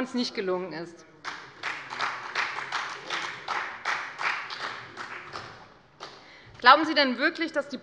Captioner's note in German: Beifall bei der FDP